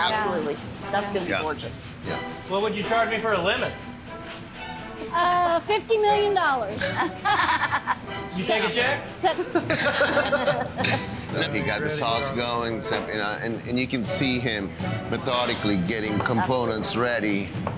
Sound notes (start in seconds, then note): 6.8 laughing; 9.3 laughing